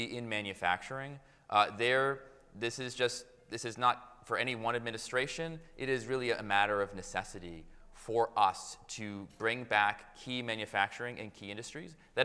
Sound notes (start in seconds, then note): none